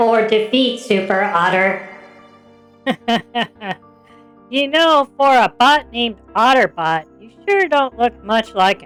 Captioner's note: laughs